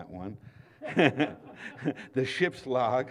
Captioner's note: laughter